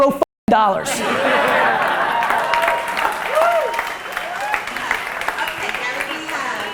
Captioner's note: laughter